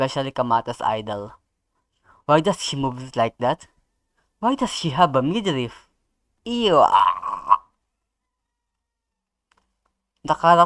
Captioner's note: disgusted noise